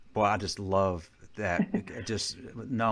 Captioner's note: chucking